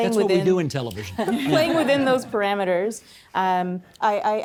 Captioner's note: laughing